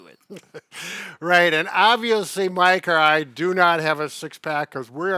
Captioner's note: laughs